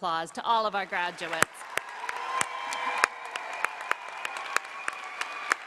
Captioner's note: applause